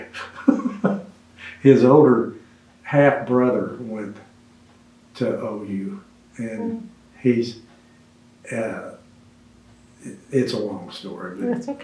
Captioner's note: laughs